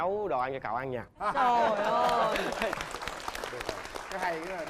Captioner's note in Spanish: Aplauso